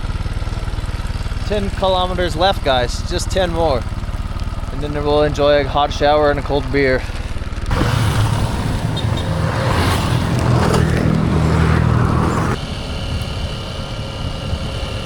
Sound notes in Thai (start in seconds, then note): 0.0 เครื่องยนต์จักรยานคำราม; 9.7 เครื่องยนต์จักรยานคำราม